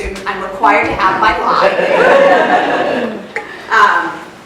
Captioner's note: laughter